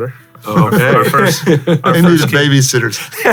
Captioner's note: chuckles; laughs